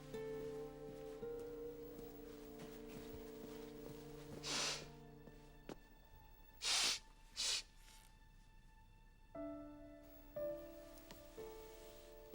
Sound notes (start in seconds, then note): 4.3 sniffling